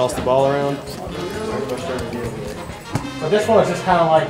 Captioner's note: crew talking